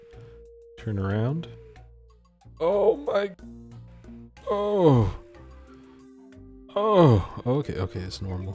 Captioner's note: displeasure noises